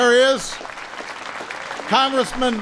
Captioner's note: applause